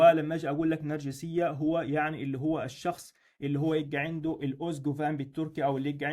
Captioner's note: in Turkish